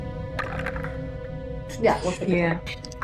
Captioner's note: dice rolling